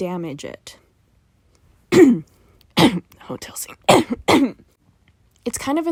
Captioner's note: coughing fit